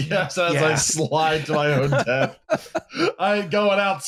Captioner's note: laughs